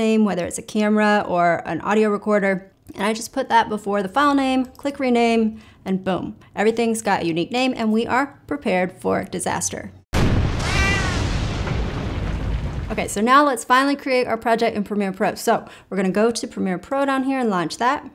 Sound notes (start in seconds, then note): 10.1 bomb blast